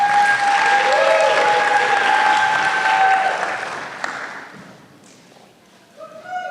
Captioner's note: applause